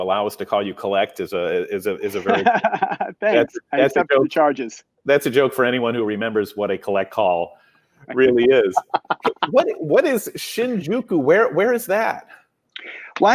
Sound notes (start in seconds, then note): 2.0 laughs; 8.1 laughs